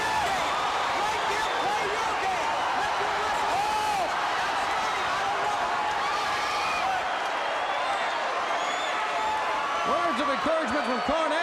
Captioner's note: crowd cheering